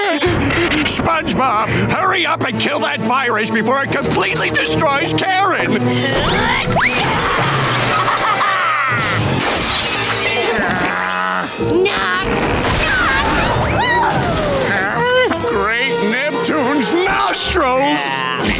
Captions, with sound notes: SpongeBob, hurry up and kill that virus before it completely destroys Karen! [grunting] [laughing] [glass shattering] Knock knock! Whoo! Huh? Great Neptune's nostrils!